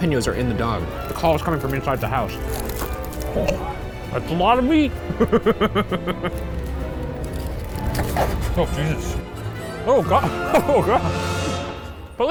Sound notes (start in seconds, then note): 2.3 foil crinkling; 5.0 laughing; 10.9 dramatic music